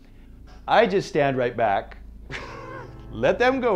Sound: laughing

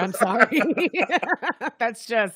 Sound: both laughing

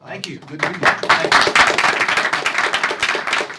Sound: applause

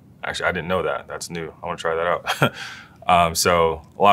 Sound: laugh

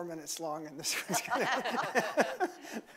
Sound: laughing

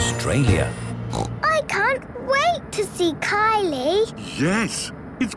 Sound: snorting

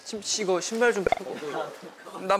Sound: straining

